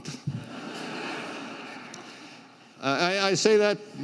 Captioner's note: crowd laughs